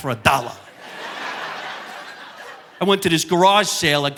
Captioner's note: audience laughing